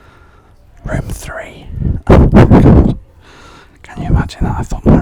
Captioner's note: laughs quietly